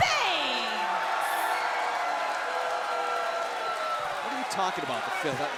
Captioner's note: crowd cheering